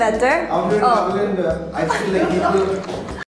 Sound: laughs

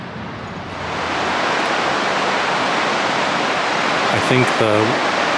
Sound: water rushing

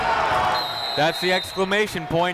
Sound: whistle

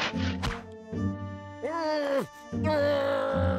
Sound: straining grunt

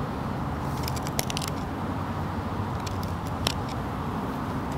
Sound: scraping grease away

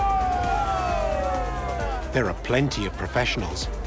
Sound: men cheering

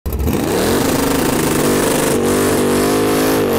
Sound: engine roaring

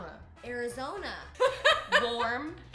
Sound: laughs

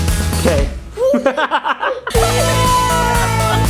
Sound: laughs

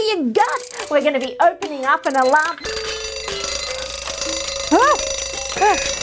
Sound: loud alarm beeps

